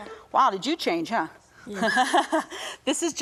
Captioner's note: laughs